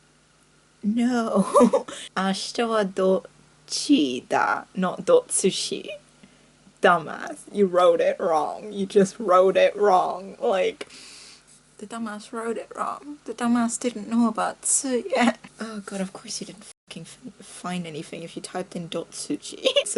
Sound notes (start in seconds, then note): 10.9 inhalessss